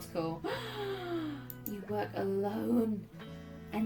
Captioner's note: gasp